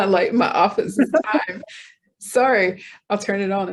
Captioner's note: chuckles